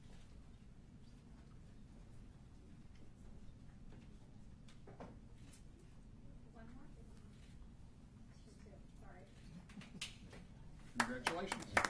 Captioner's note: applause